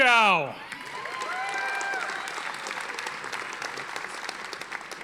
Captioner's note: audience applauding